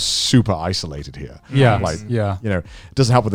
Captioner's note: group agreeing